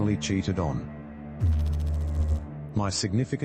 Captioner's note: electrical noise